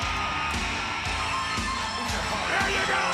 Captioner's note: audience cheering